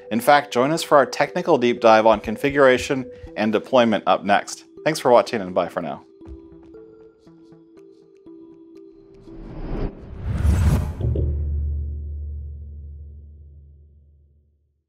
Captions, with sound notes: In fact, join us for our technical deep dive on configuration and deployment up next. Thanks for watching and bye for now. (dramatic whooshing)